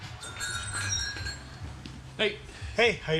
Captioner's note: doorbell chimes